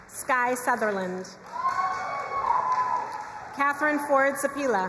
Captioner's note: crowd cheering and applauding